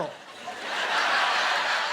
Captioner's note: laughing